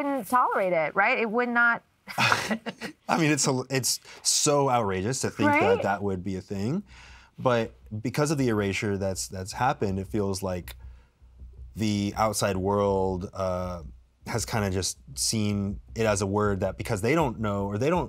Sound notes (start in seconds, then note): 2.1 both chuckle